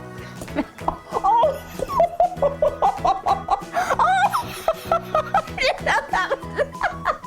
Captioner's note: laughing